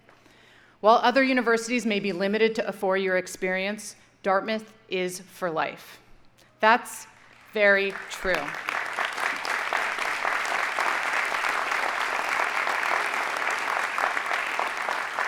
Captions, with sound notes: While other universities may be limited to a four year experience, Dartmouth is for life. That's very true. (audience applauding)